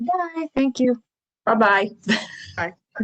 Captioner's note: laughter